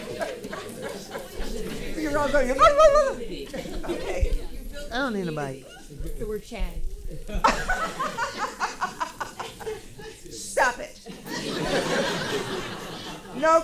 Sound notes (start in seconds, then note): 0.0 laughing; 7.0 laughing; 7.3 attendee speaking softly; 11.0 audience laughing